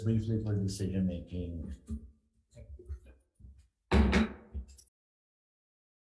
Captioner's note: chair bangs gavel